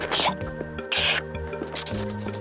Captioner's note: whooshing